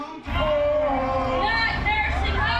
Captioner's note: protesters chanting